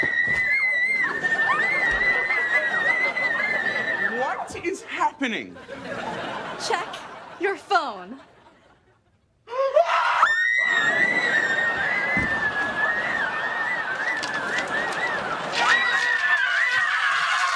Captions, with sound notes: [audience laughing] What is happening? Check your phone. [all screaming] [yelling]